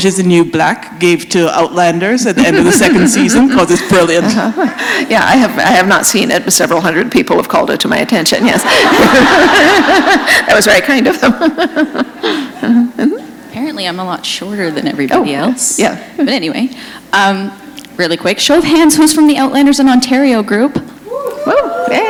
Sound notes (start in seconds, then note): 8.5 laughter; 12.1 chuckle